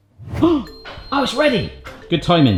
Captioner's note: gasps